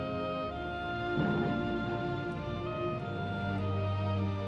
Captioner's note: cabin crashing